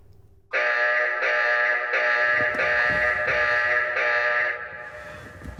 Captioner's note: loud alarm